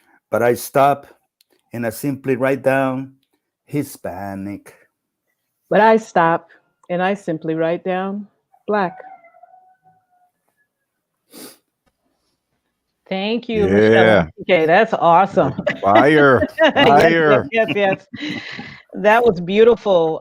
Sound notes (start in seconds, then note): 15.3 laughs